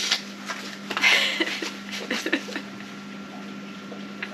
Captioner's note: sobbing